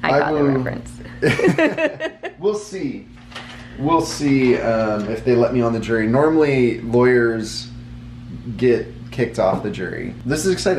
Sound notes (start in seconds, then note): 1.2 laughing